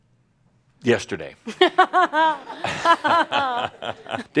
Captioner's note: laughter